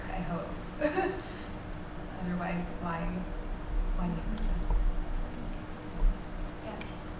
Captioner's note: laughs